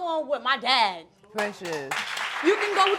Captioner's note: audience applauds